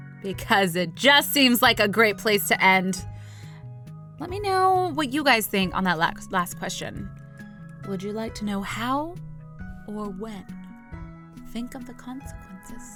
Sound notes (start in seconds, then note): none